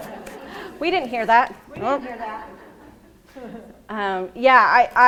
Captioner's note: laughing